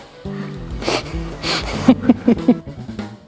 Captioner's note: laughter